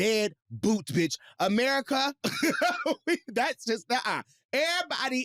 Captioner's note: chuckles